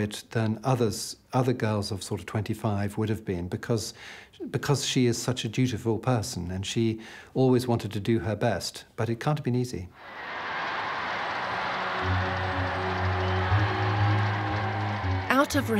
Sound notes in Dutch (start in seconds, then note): 10.0 publiek juicht; 12.4 langzame muziek